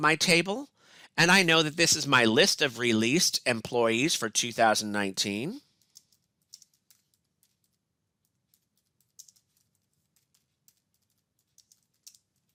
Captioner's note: typing